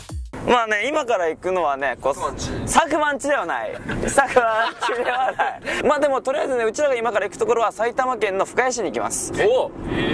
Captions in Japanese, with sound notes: まぁね〜今から行くのはね、 佐久間の家ではない。 佐久間の家ではない（わら） まぁでもとりあえずね うちらが今から行くところは おぉ！